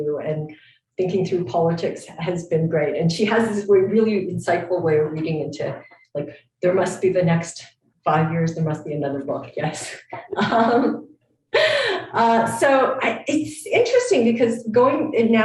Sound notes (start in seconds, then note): 10.2 chuckles